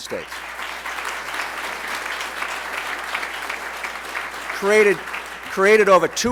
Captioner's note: applause